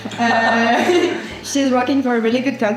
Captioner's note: laughs